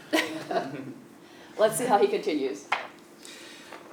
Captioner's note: laugh